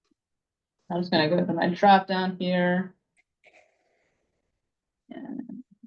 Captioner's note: hums